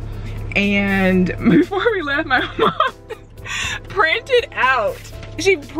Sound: laughs loudly

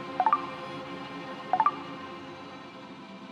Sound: notification sound; notification sound

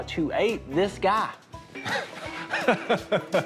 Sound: laughs

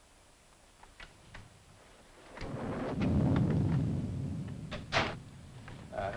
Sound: lock clicking; thunder rumbling

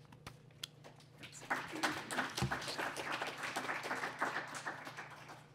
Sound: applause

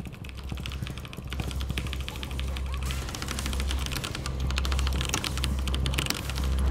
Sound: character whining; keys clacking

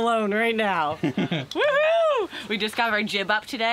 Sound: chuckles

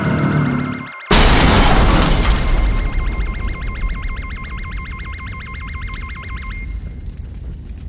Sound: crash

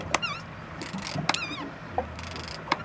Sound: squeaking; reel cranking

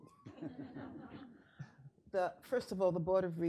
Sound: audience laughing

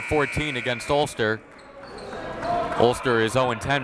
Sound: buzzer

